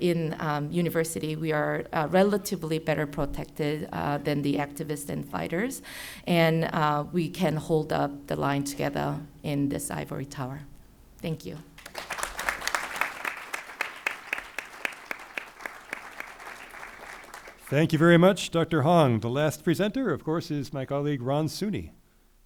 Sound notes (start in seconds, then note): 11.8 crowd applauding